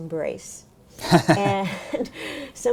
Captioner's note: laughter